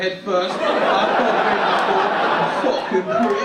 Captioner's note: audience laugh